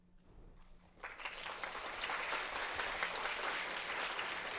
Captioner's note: audience applauding